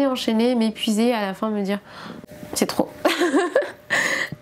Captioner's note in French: rires